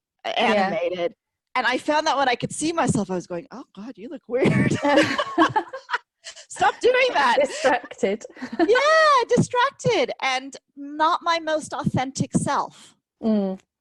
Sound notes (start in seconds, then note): 4.4 both laughing